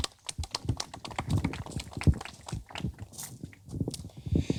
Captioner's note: audience applauding